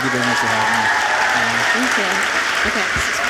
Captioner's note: audience applauds